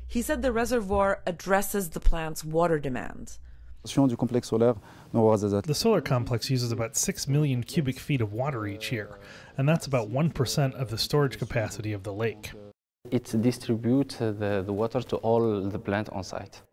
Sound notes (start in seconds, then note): 4.5 through translator